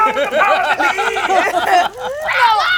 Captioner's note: all laugh